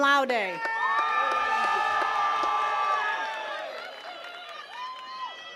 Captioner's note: attendees cheering and clapping